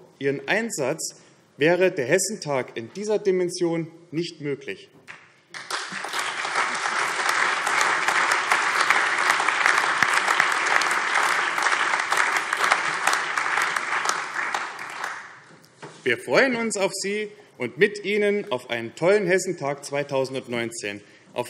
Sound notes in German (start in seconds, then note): 5.5 Allgemeiner Beifall